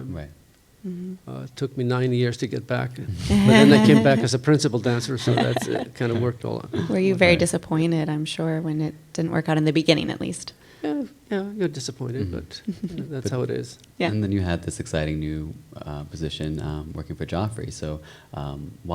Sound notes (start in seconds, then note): 4.8 chuckle; 4.9 chuckles